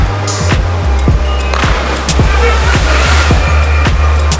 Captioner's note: energetic electronic music; splash